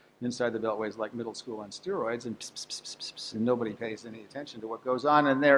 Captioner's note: whisper sounds